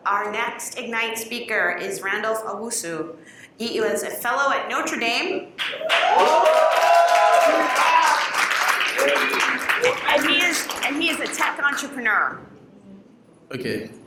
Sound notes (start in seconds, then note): 5.6 cheers and Applause